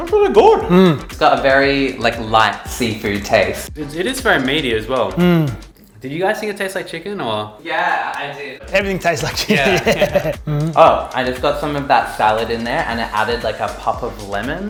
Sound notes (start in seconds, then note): 9.0 chuckles